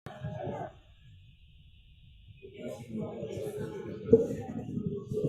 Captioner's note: people chattering